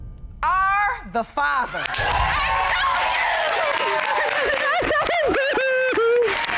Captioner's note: sobs